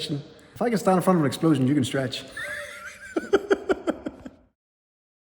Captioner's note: laughs